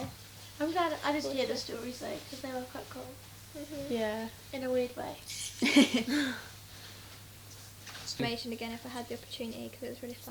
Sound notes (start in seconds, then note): 5.3 chuckle